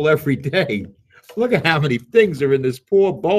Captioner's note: laughs